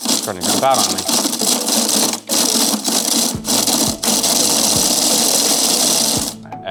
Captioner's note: machine buzzing